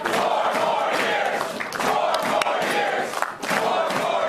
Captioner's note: cheers and applause